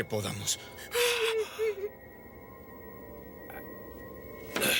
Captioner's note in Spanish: Jodie soluçando